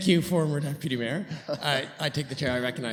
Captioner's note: laughter